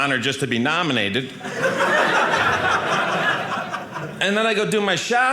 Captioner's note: audience laughing